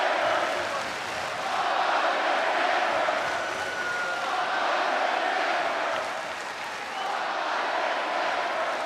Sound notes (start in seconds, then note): 0.0 audience continues chanting and clapping